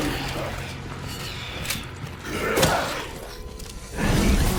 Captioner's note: zombies grunting